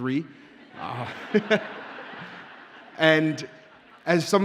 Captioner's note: audience laughs